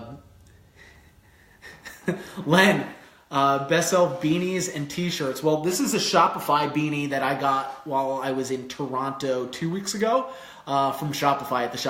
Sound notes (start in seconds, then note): 1.5 chuckles